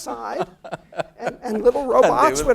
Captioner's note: laugh